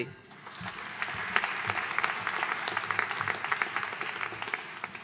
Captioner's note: audience applauding